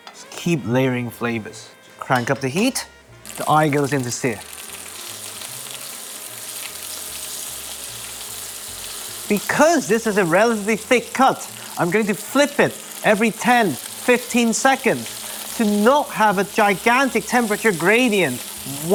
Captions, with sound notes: Keep layering flavours. Crank up the heat. The eye goes in to sear. [sizzling sound] Because this is a relatively thick cut, I'm going to flip it every 10-15 seconds to not have a gigantic temperature gradient